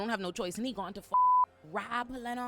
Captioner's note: beep